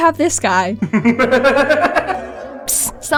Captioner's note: laughter